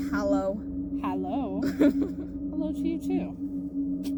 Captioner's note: giggling like a small child